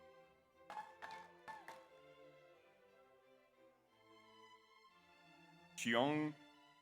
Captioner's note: audience applauds; audience cheers